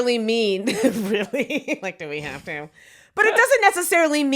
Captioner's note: laughs